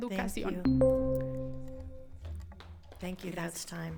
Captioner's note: continues speaking in foreign language; timer dinging